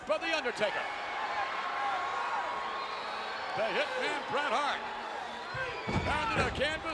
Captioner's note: applause